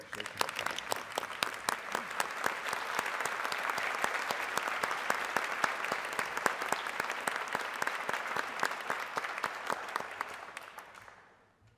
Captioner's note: applause